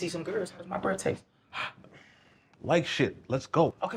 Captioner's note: exhales